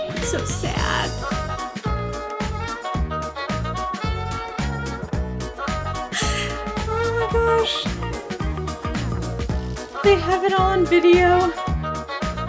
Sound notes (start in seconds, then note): 0.0 upbeat music continues; 1.6 upbeat music continues; 6.1 laughs; 9.7 upbeat music continues